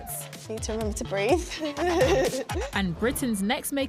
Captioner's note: laughs